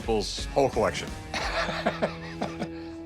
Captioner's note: laughs